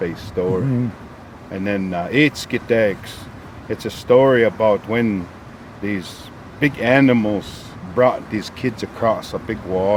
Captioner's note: speaking in Blackfoot